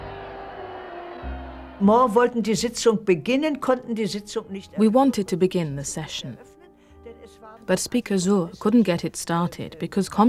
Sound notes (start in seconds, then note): 2.1 speaking german